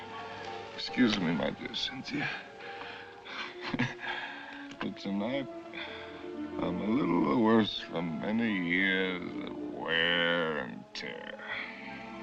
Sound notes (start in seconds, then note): 3.3 chuckles